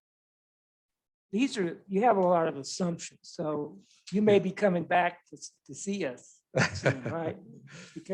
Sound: laughs

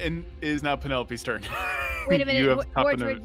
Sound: laughs

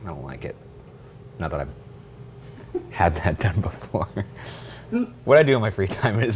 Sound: chuckling

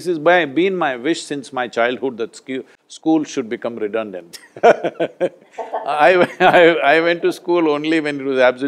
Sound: laughs

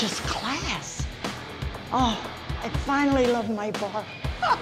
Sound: laughs

